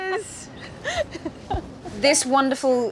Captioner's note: laughs